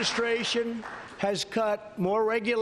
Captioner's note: applause